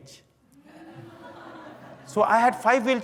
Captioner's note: laughter